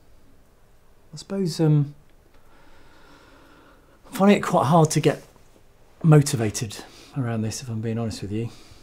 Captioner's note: sigh